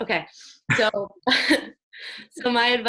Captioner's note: laughs